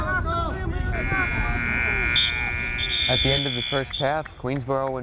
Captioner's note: buzzer